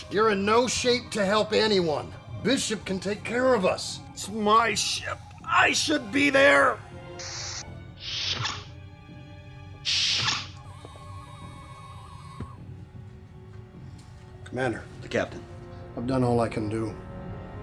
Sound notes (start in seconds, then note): 7.1 sounds: Hypo injected in patient. Outer door opens and closes